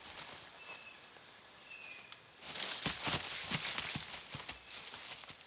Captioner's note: leaves rustle